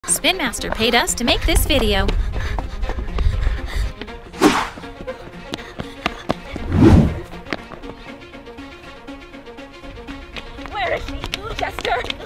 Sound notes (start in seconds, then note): 2.9 footsteps clatter on pavement; 4.2 heavy breathing; 4.2 string music